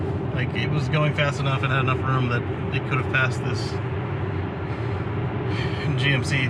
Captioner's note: sigh